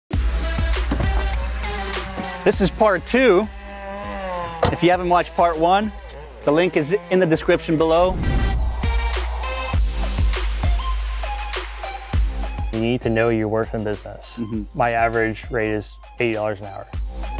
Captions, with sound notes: (hip hop music) - This is part two. (lawnmower buzzing) If you haven't watched part one, the link is in the description below. - You need to know your worth in business. My average rate is $80 an hour.